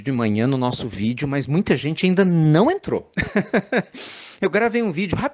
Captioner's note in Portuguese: risadas